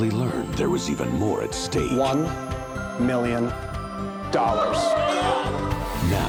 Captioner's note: contestants exclaiming